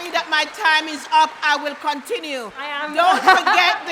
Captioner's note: applause